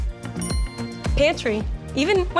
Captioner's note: bell chimes